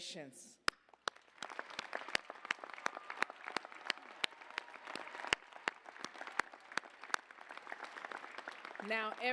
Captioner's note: applause